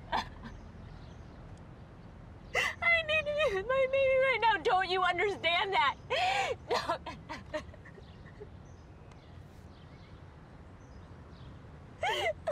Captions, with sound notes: I need you, I need you right now! Don't you understand that?! (loud sobbing)